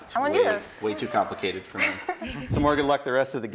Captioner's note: laughter